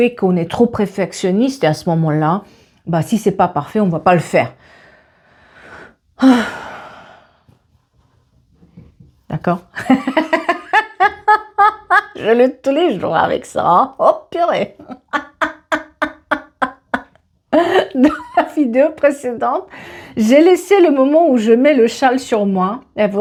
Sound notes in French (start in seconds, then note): 9.8 rires